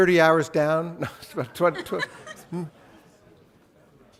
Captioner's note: laughs